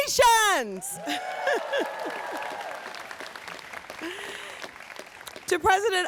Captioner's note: audience cheers and applauds